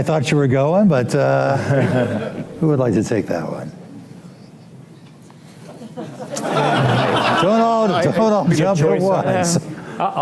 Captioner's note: laughter; laugher